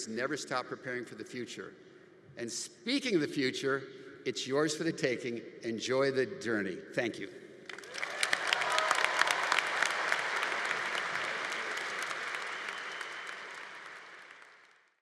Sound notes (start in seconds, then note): 7.6 audience applauding; 7.7 audience cheering